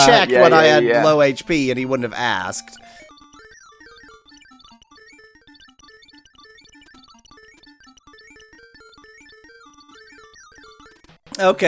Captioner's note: awkward silence